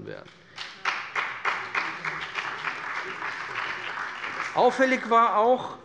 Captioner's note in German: Beifall bei dem BÜNDNIS 90/DIE GRÜNEN und der CDU